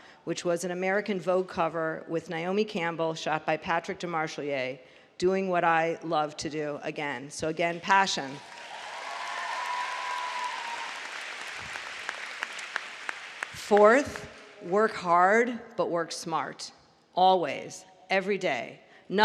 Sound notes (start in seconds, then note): 8.1 applause